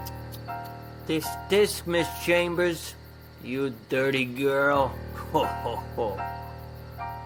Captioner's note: laughs